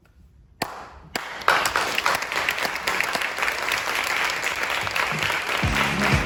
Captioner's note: applause